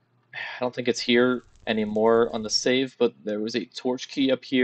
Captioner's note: sigh